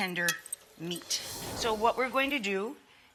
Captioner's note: whooshing